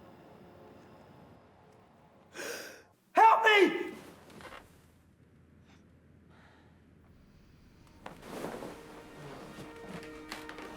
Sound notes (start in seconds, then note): 2.3 Bobby gasps; 4.4 bed creaking; 8.8 tense music